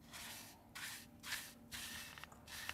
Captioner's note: sweeping sound